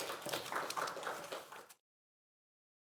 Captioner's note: applause